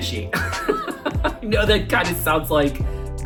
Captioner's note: laughing